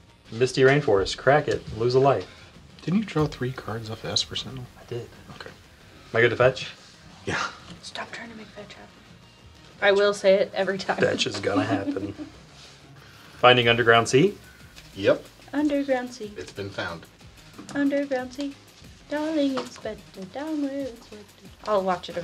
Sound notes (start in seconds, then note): 10.9 laughing